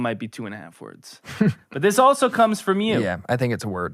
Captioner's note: laughs